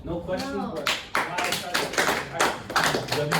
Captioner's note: applause